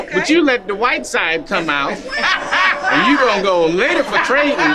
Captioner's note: group laughing